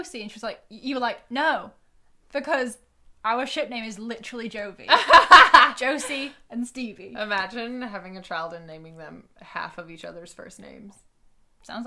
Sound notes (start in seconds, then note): 4.9 laughing